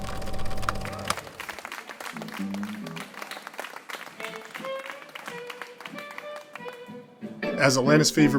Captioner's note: applause